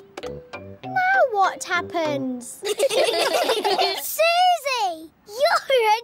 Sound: all giggling

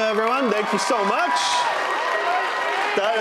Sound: audience applauding; audience cheering

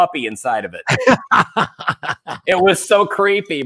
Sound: laughing

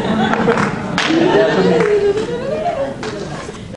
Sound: audience laughs

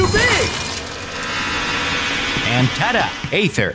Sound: portal humming

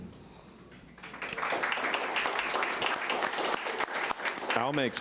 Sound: audience applauding

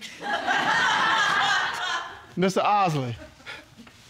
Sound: audience laughing

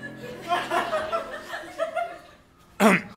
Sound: audience laughing

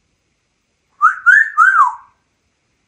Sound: whistles

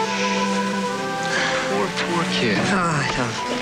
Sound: sighs

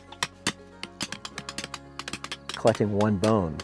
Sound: hammering

